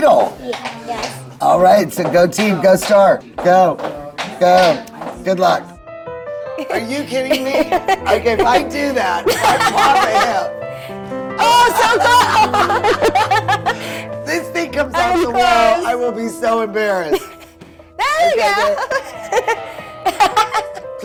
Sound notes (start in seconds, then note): 0.1 giggles; 6.6 laughs; 11.3 both laugh; 11.3 laughs louder; 17.9 laughs